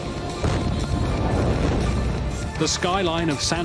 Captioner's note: bang!